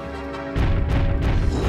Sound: growl

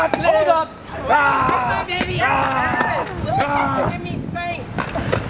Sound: Dene-saur screams and flails

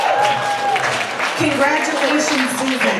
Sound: audience applauds

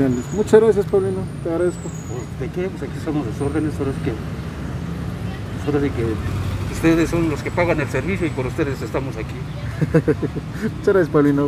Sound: laughs

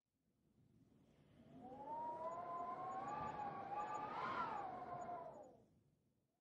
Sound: wind blowing through windows

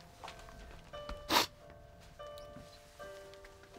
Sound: sniffs

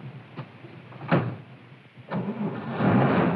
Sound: car starts

